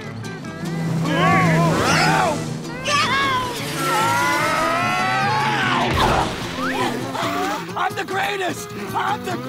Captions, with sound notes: [shouting] [screaming] [grunting] I'm the greatest! I'm the...